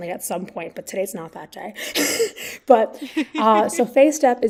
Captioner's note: both laugh